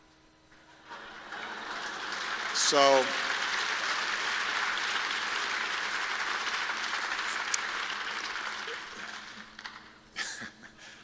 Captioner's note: laughter and applause